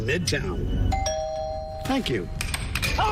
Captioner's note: doorbell